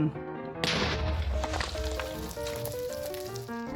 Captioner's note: explosion